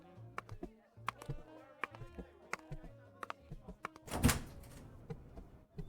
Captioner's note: footsteps, then door opening